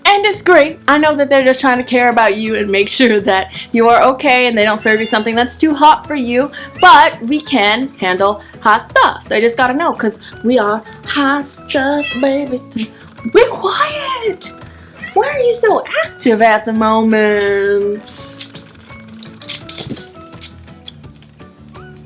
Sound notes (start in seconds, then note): 4.8 soft meow; 11.8 soft meow